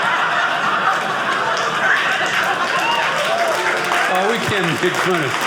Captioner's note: audience laughing; audience cheering